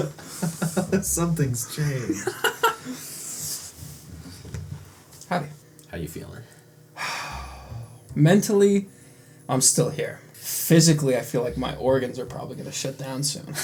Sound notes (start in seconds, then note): 1.8 laughs; 7.0 heavy sigh; 13.4 laughter